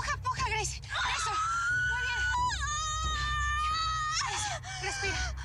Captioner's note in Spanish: gritos y quejidos